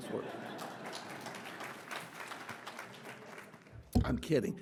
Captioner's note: audience applauding